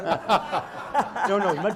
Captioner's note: laughter